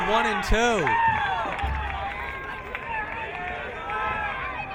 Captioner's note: crowd cheering